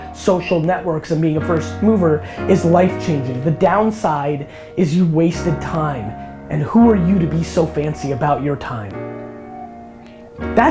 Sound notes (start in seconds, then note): none